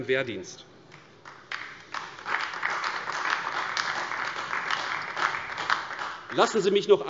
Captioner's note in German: Beifall AfD